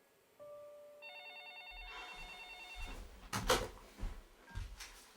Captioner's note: phone ringing